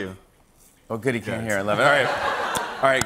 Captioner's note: laughter